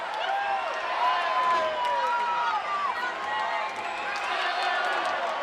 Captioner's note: crowd chattering